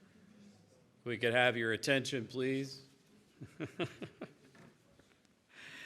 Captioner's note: chuckles